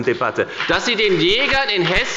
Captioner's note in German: Beifall bei der FDP und bei Abgeordneten der SPD